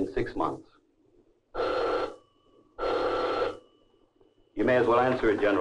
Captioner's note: phone ringing